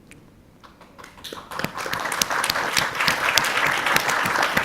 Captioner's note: audience clapping